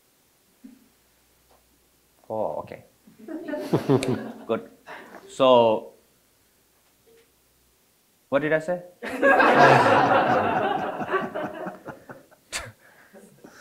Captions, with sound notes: Oh, okay, good. (audience chuckling) So what did I say? (all laughing)